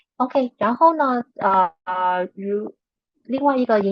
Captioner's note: speaking chinese